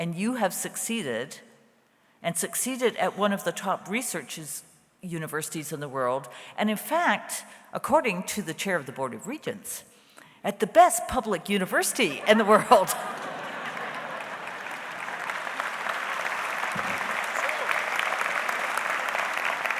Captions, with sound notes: and you have succeeded, and succeeded at one of the top research universities in the world, and in fact, according to the Chair of the Board of Regents, at the best public university in the world. (audience laughs) (audience applauds)